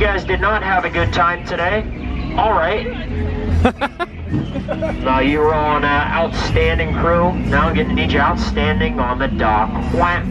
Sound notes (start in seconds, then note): 3.6 laughs